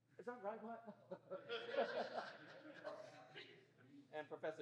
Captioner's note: laughter